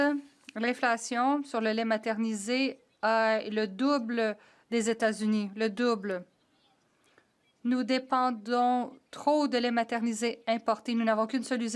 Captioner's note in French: voix de l'interprète